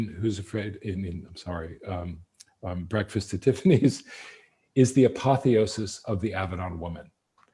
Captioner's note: laughs